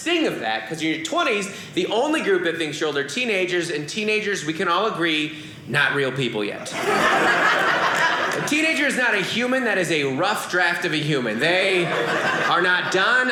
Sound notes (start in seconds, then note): 6.6 audience laughing